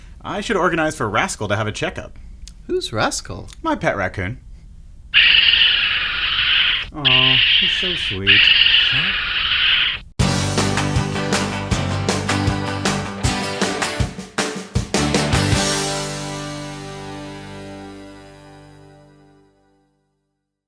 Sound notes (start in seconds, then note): 5.1 raccoon screeching